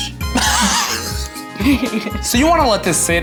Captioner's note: chuckles; laughs